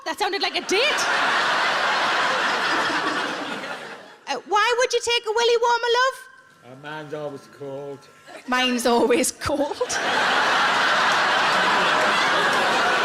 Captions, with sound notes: Fuck, that sounded like a date! (audience laughs) Why would you take a "Willie Warmer," love? - Mine's always cold. - Mine's always cold. (everyone laughs)